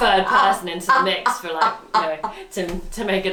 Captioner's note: laughing